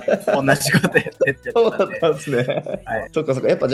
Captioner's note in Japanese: 笑い